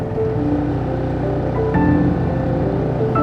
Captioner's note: boat rumbling; soft music continues